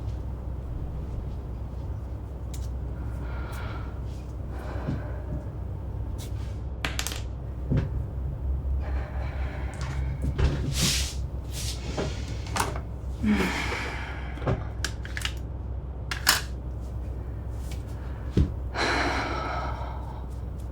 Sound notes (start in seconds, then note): 0.2 air conditioner humming continues; 2.8 mother breathing deeply; 8.6 mother sighs; 13.2 mother sighs; 15.2 objects rattling; 18.7 mother sighs